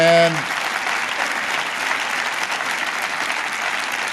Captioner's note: applause